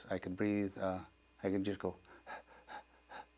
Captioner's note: shallow panting breaths